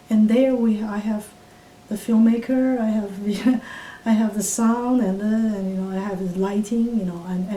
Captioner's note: laughs